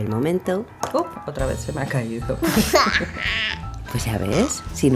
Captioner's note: laughs